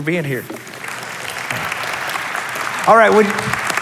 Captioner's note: applause